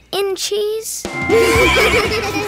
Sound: laughing, neighing

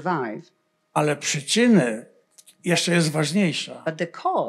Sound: foreign language

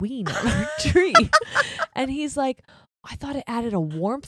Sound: both laughing

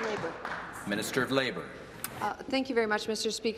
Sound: applause

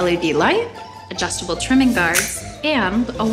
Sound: guards clicking

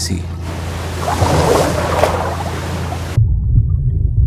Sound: waves crashing

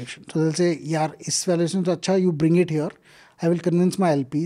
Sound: speaks in Hindi

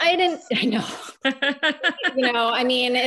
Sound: laughing

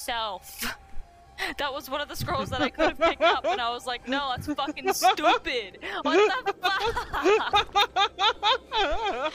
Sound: laughing

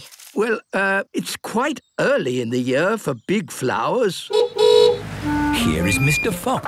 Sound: honking

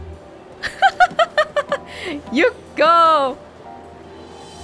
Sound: laughs

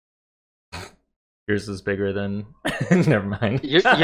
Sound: laughter

